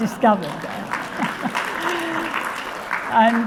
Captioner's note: audience applauding